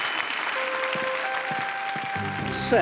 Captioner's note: clapping